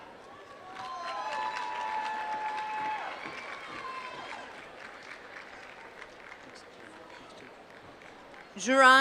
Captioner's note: applause